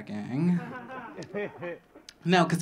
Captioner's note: audience laughing